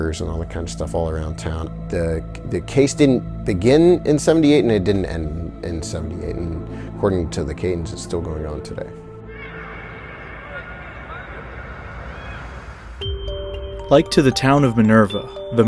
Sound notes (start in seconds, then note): 9.3 faint voices wailing; 9.8 suspenseful music